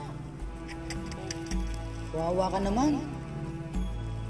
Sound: clicks tongue

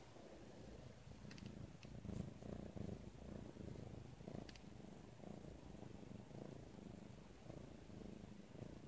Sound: louder purring sound

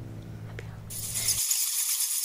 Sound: bats flying

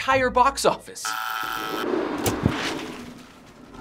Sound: phone buzzes; whooshing; money rustling

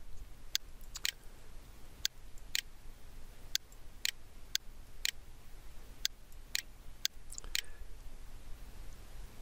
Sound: PowerPoint clicks

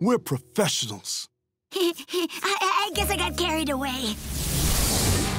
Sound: chuckles

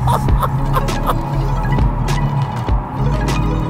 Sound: laughing

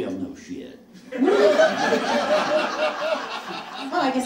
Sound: audience laughs

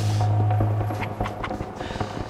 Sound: laughing

